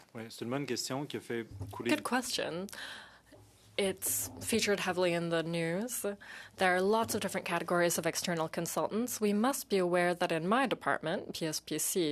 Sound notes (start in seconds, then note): 4.0 speaking in French